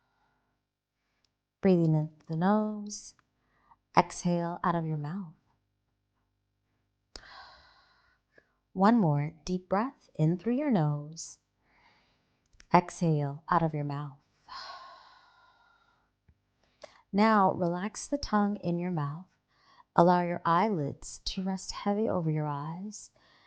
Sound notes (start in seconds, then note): 7.2 exhaling; 14.5 exhaling